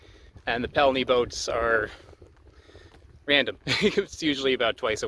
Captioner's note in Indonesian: tertawa